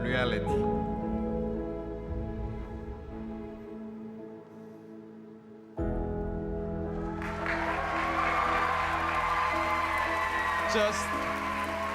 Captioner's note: applause; cheering